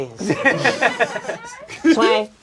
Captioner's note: crowd laughing